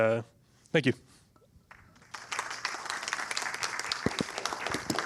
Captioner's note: applause